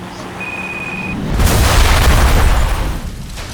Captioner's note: car tires screeching; phone rings; explosion thunders